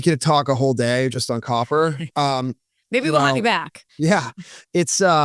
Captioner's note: laughs